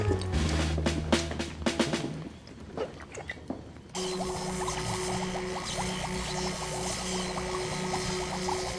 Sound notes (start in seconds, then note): 4.0 electricity zapping; 7.2 liquid bubbling